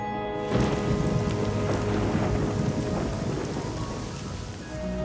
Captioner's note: thunder